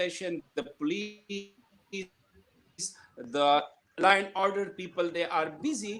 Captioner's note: connectivity hitch drowns other sounds